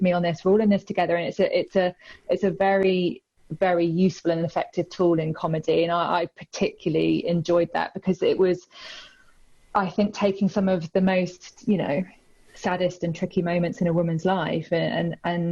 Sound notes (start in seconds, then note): none